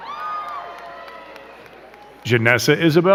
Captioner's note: crowd cheering and clapping